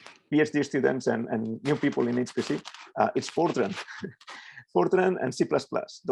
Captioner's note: chuckles